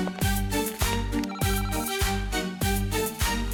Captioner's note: doorbell